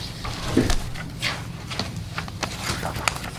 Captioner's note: papers rustling